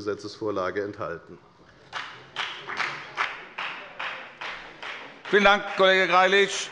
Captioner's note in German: Beifall bei der FDP